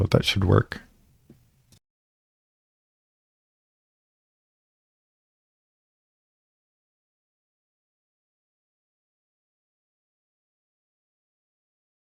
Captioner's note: silence